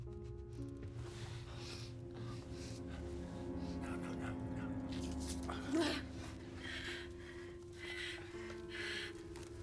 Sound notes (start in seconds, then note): 5.4 Qi'an gasps